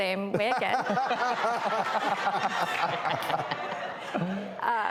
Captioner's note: audience laughs